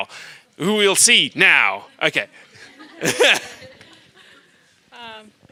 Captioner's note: laughs